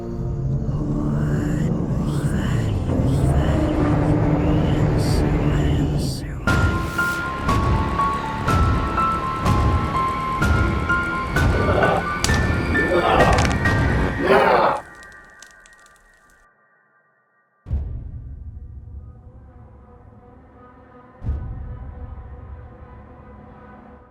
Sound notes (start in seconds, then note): 11.4 monster roaring, bones crunching